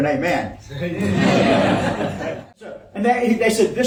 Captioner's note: participants laughing